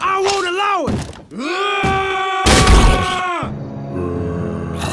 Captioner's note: Fart_Garfunkel and N00bly yell